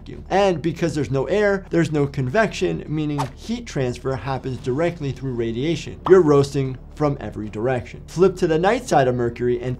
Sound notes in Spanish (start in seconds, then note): 4.0 transición silbante